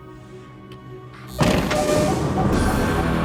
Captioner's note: door buzzes